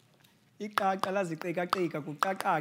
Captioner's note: khoisan language